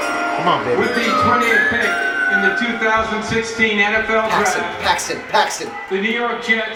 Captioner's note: voiceover